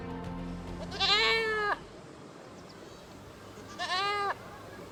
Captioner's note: goat bleating